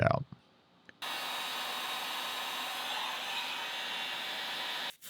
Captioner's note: heat gun whirring